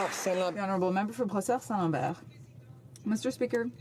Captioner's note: some Applause